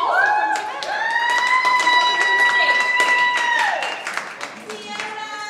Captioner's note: audience applauds